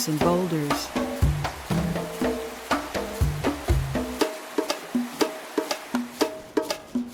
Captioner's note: upbeat drum music continues; water streaming